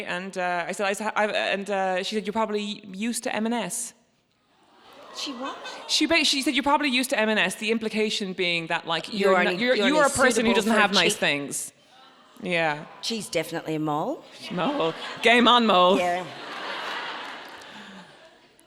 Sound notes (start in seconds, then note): 4.9 audience groans; 16.9 audience laughs